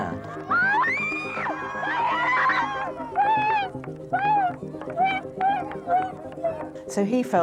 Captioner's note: crowd cheers and screams